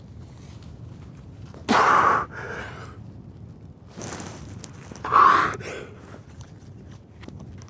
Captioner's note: exhaling